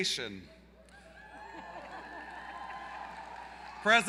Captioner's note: applause